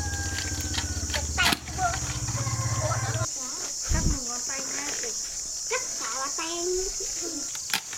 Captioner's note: kids chatting